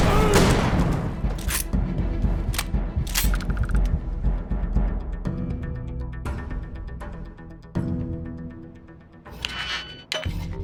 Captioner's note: groaning